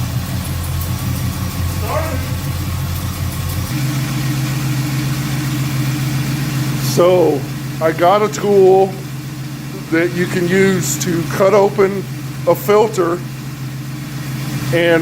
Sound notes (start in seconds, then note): 6.8 engine cranking; 6.8 engine starts & idles